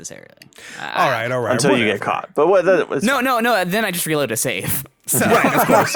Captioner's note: laughs